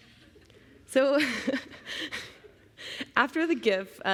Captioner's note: chuckling